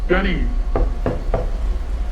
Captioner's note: door knocking